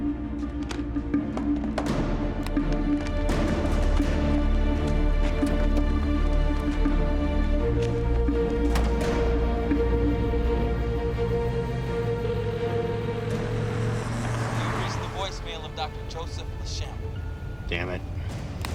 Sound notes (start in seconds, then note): 0.2 dramatic music playing; 12.0 line ringing